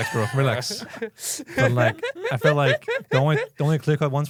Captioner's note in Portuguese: risos